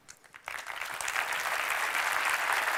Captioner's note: applause